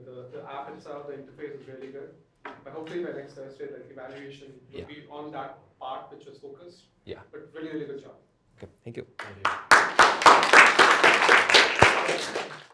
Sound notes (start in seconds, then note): 9.2 applause